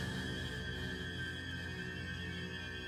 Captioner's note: gasps; panting